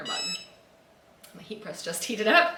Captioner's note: loud beep